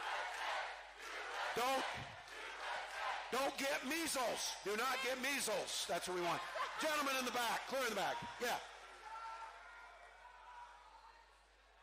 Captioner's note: chanting